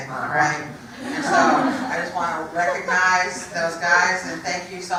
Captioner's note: laugh